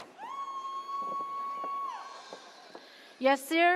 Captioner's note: audience cheers